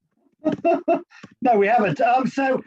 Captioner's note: laughs